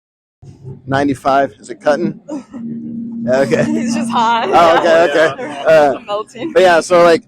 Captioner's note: laughing